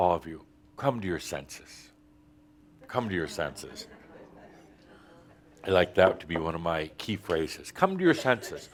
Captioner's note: a few chuckles